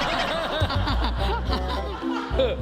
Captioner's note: giggling